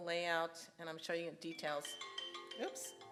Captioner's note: alarm rings